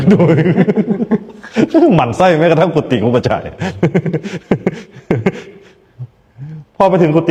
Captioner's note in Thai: เสียงหัวเราะ